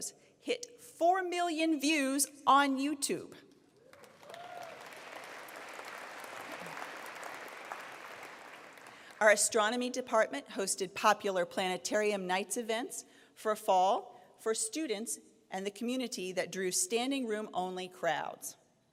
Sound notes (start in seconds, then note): 3.8 applause